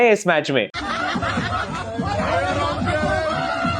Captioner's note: people laughing